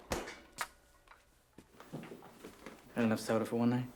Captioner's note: bottle popping